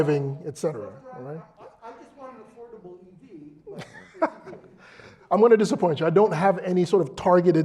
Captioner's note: laugh